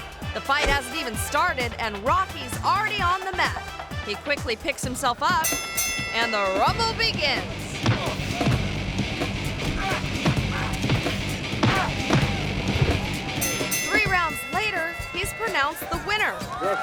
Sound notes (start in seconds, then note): 5.4 bell rings; 7.8 boxers punching; 13.3 bell rings